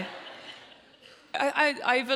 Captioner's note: audience laughs